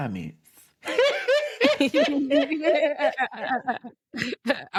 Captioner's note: both laughing